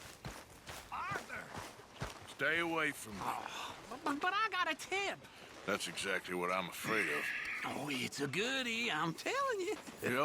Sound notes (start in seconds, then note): 3.3 sighs